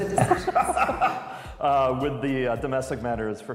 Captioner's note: laughter